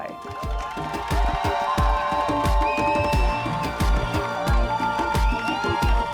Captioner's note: cheering